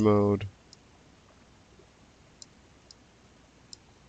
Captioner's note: mouse clicking